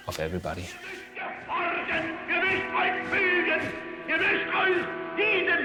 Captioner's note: Adolf speaking foreign language